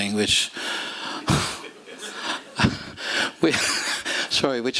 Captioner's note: laughter